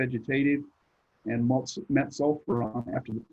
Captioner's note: connectivity hitch drowns other sounds